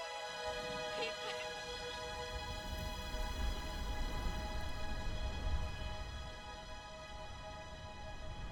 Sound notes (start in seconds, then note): 1.5 wind blowing